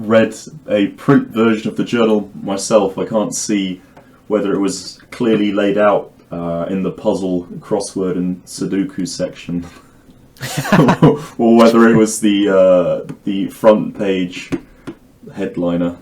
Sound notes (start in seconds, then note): 10.4 both laughing